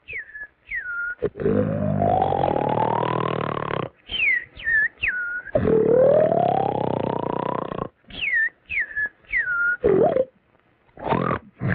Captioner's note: ronflements